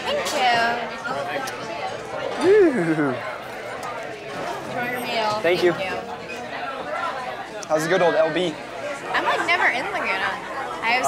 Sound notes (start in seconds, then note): 2.4 Stephen woos